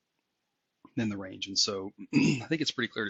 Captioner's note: cough